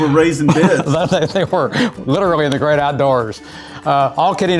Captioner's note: laughing